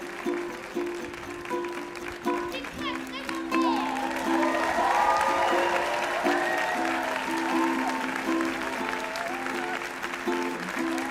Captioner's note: cheers and applause